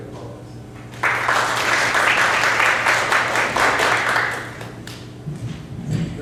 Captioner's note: clapping